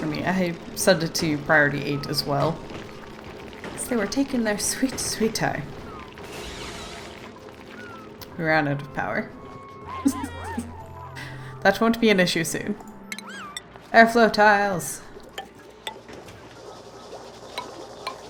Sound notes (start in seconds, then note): 9.8 laughs